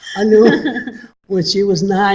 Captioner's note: laughs